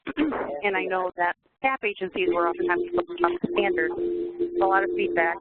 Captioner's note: feedback